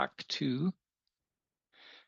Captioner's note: speaking French